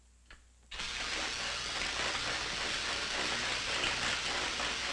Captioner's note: electricity crackling